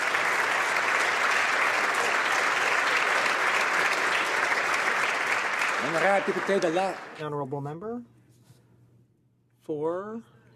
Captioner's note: applause